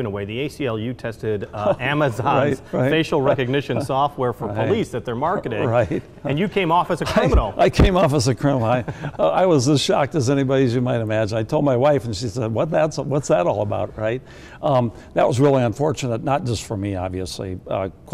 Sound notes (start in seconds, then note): 5.5 laughs